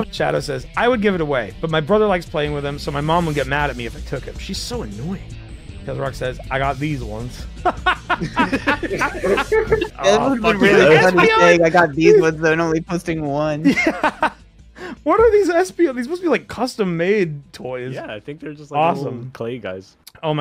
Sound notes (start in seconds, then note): 7.6 laughter; 13.6 laughs